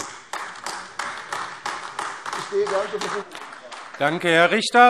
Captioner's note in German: Beifall AfD